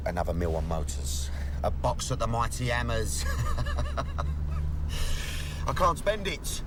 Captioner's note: laughs